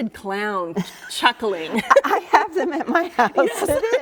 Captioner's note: laughs